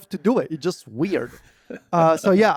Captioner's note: laughs